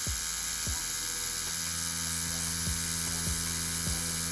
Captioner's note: tattoo machine buzzing